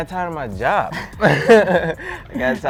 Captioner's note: laughter